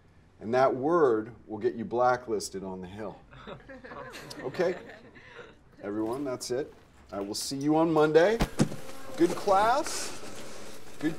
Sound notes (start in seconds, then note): 3.3 students chuckling